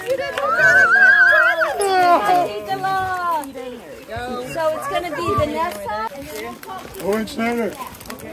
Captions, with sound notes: [cheering] "Owen Schneider"